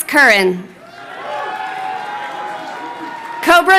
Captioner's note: crowd cheering